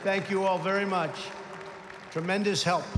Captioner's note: applause